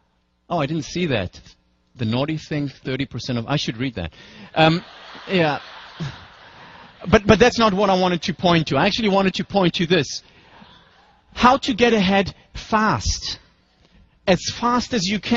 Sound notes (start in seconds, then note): 4.4 laugh